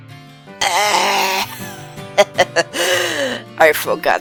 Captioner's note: nervous laugh